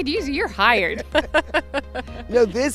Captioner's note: laughing